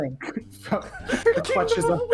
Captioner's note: laughter